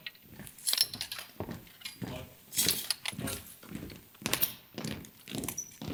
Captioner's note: rifles rattle; feet stomp